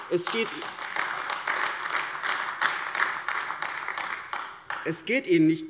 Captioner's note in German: Beifall AfD